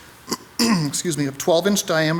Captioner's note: clears throat